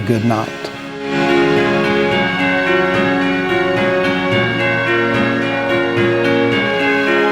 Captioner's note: upbeat music; bells ringing